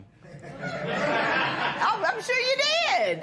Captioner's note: laughter